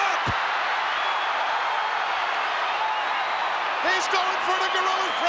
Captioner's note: crowd cheering